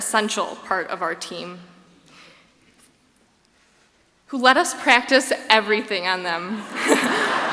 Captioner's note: laughs